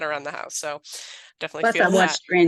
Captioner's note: laughs